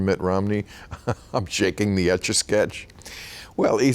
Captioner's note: laughing